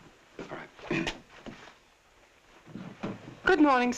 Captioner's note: clears throat